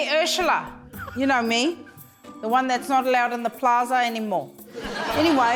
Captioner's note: laughter